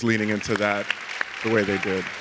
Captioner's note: audience clapping